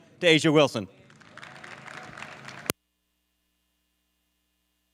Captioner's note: audience claps